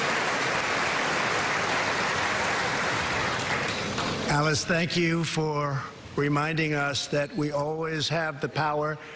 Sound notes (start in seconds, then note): 3.6 applause